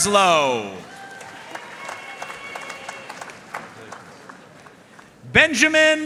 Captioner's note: audience cheering and applauding